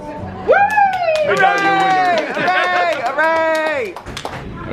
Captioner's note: people cheer